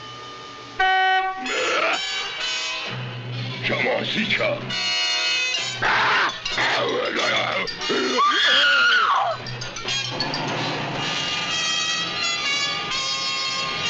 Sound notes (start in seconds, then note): 0.8 car horn honking; 1.7 yelling; 3.2 dramatic instrumental music; 4.5 speaking in a foreign language; 6.0 yelling; 7.9 screaming; 9.4 car engine running